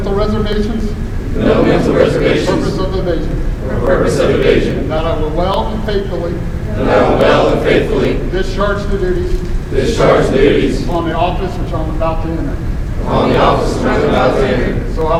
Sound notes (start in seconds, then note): 0.1 commissionees repeat; 3.2 commissionees repeat; 6.3 commissionees repeat; 9.4 commissionees repeat; 12.6 commissionees repeat